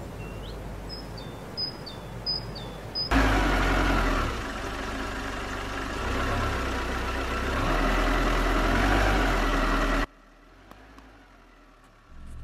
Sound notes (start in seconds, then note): 0.0 birds chirping; 3.2 engine rumbling